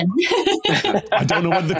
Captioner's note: laugh